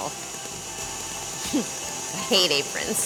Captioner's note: chuckles